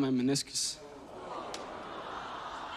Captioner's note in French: crowd aws